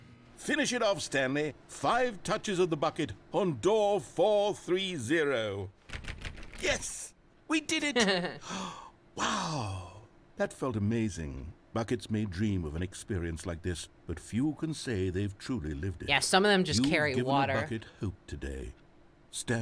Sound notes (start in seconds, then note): 7.9 chuckles; 9.2 gasps